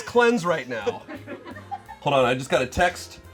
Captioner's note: and crew laugh